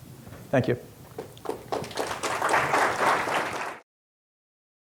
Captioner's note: audience clapping